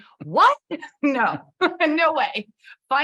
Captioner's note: chuckles